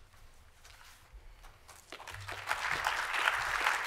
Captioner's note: applause